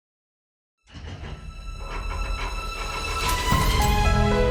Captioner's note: vault clunking